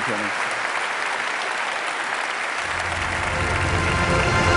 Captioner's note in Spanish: Aplausos